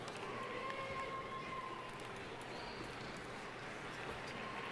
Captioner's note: crowd chattering